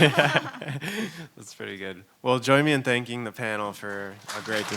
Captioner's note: laughing